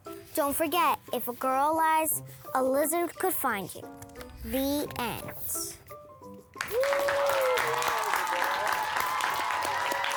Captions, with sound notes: Don't forget, if a girl lies, a lizard could find you. The end. (clapping and cheering)